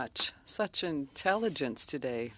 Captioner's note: speaking French